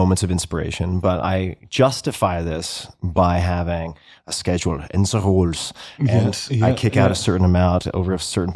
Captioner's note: foreign language